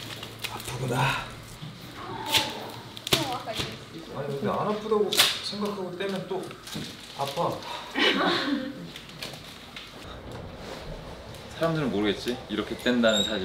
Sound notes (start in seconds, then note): 7.9 haha